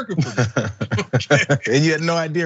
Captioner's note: laugh